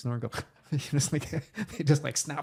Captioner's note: laughing